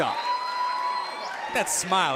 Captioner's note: cheers & applause